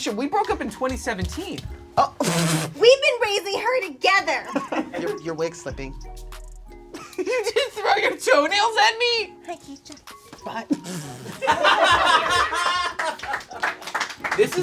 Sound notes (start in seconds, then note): 7.0 laughing; 12.2 crew laughs and claps